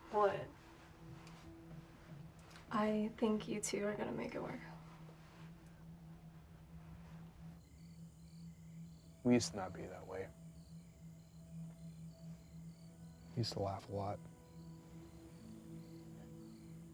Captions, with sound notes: - What? - I think you two are gonna make it work. (gentle music) (crickets chirping) - We used to not be that way. (crickets chirping) Used to laugh a lot.